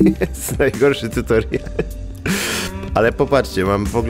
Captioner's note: laughter